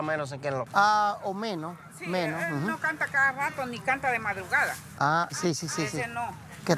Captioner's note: and customers speaking Spanish